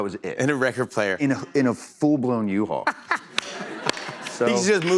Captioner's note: laughter